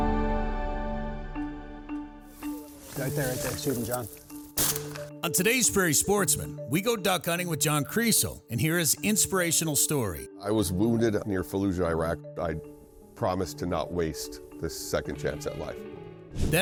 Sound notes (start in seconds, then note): 4.6 gun fires